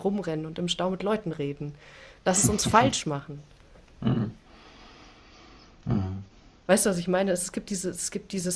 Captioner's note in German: räuspern